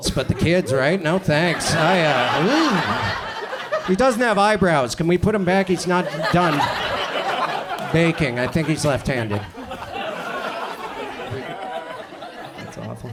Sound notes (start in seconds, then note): 1.8 audience laughs; 6.8 audience laughs; 9.9 audience chuckles